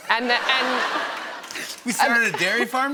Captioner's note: laughter